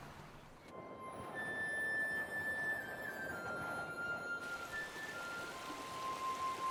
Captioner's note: peaceful music; wind blowing